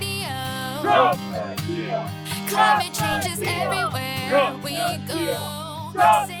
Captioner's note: protestors chanting